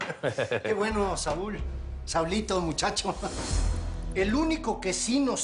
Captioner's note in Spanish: Risas; Ríe